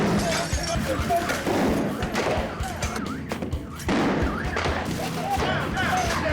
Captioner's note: flashbang exploding